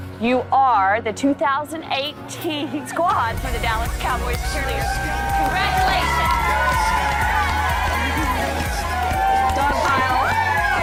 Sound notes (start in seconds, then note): 7.5 cheerleaders cheering